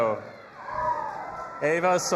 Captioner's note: audience applauding and cheering